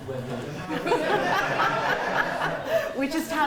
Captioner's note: laughter